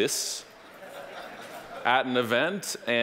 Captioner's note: audience laughing